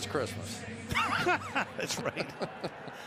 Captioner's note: laughter